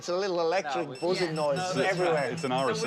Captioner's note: beeping